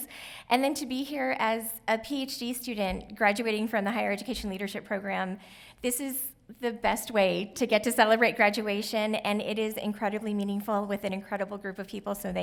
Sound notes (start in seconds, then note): none